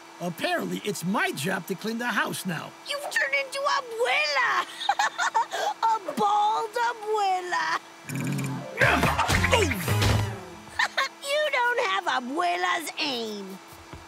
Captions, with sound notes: Apparently, it's my job to clean the house now. You've turned into Abuela! [laughing] A bald Abuela! [growling] Oh! Ha-ha. You don't have Abuela's aim.